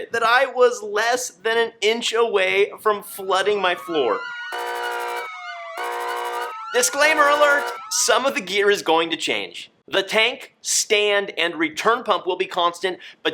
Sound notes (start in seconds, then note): 4.2 dramatic beeping